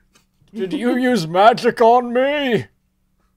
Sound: deeper voice than usual

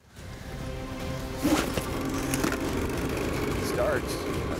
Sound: engine starts

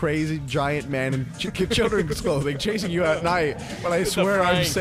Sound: laughs

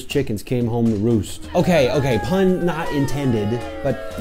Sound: sfx: crowd boos

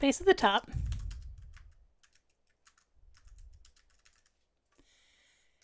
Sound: keyboard clanking

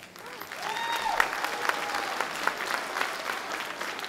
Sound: audience clapping

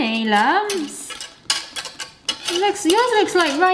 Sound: spoon clatters

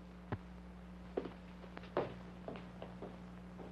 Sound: footsteps banging

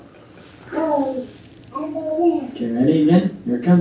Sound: baby babbles

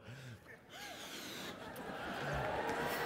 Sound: cheers and applause

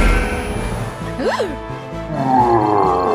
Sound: gasps

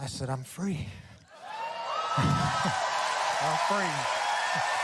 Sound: audience cheering

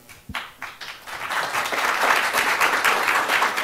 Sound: applause

